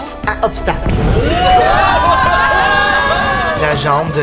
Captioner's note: steam explosion